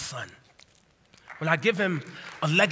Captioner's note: applause